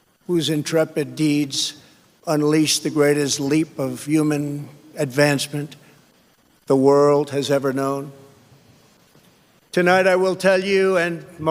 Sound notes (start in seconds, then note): none